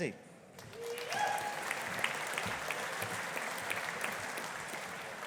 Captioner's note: audience applauding